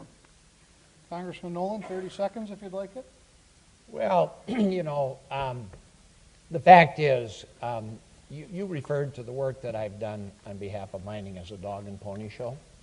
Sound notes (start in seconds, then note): 4.4 clears throat